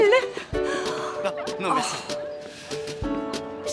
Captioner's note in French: halètements